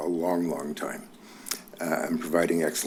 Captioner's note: clicks tongue